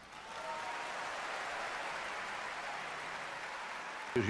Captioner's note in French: applaudissements